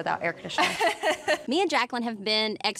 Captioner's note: chuckling